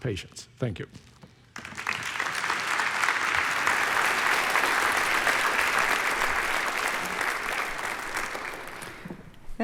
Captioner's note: applause